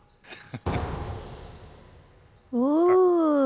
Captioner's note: laughter